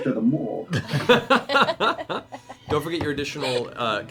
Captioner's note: Malone voice; all laugh